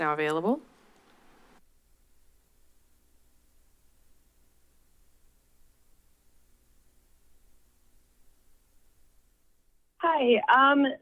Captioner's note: silence